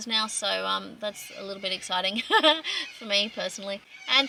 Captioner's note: chuckles